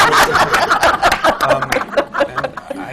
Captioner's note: laughter